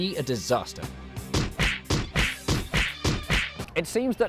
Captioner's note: punching